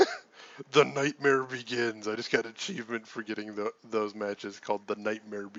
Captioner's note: laughs